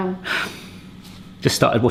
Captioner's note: sighs